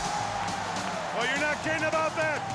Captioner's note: crowd cheers